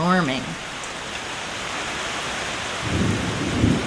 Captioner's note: heavy rainfall